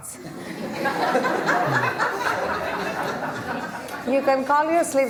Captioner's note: laughter